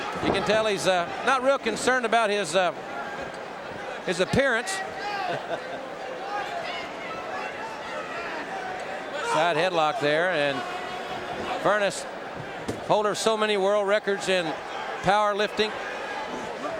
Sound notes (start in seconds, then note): 4.9 audience cheering